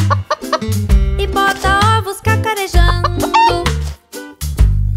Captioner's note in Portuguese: som de galinha; som de galinha